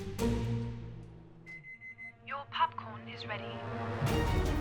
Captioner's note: beeps